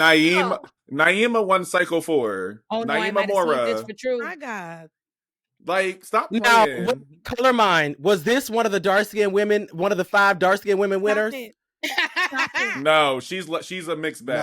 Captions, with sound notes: Naeema-- Naeema won cycle four. Oh, no, I didn't say this for truly. My God. Like, stop playing. Color mind. Was this one of the dark-skinned women-- one of the five dark-skinned women winners? [LAUGHTER] No, she's a mixed battle.